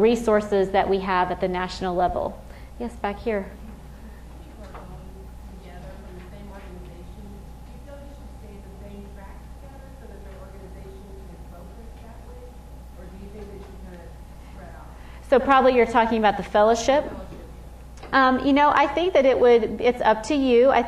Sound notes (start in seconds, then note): 5.3 female audience member speaking